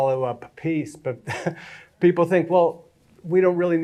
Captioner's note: chuckles